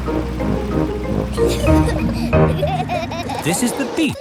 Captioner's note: children giggling